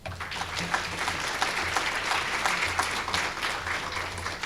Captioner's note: applause